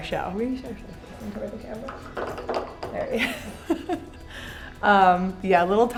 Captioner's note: laughs